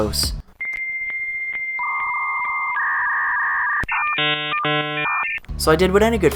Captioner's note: dial tones